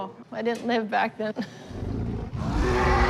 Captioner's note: laughs